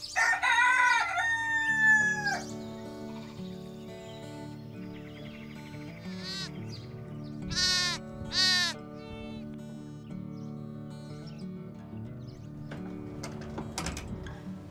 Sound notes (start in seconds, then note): 0.1 rooster crowing; 4.1 soft guitar music; 7.4 goat bleating